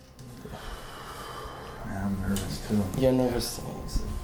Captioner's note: exhaling